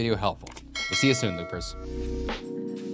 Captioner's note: sailor bell ringing; upbeat music